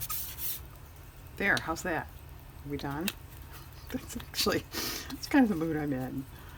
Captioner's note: laughs